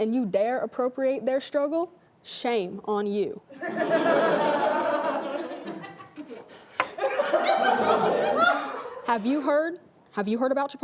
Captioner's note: laughing